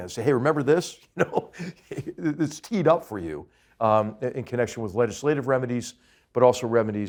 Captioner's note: laugh